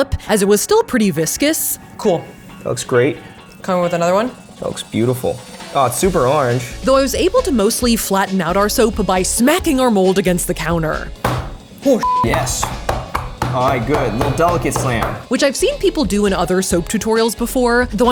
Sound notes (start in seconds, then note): 11.2 smacking mold; 12.2 knocking mold